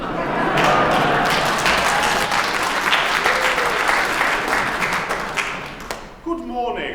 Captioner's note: laughter and Applause